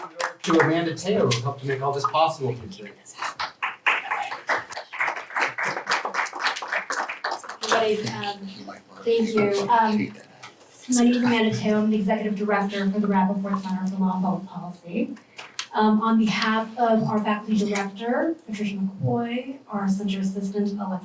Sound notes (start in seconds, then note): 3.3 applause